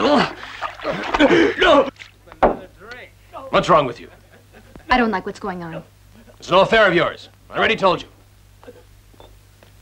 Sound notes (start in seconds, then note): 0.2 crying out; 2.2 bangs